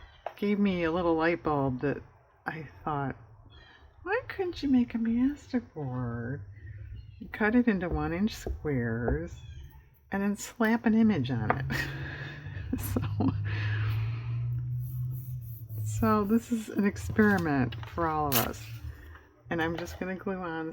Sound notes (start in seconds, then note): 11.5 laughs